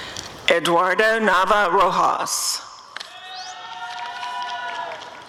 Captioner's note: applause and cheering